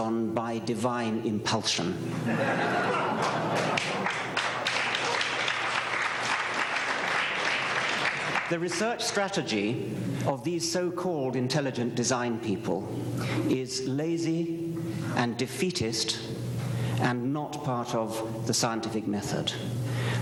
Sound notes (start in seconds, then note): 2.2 laughter, applause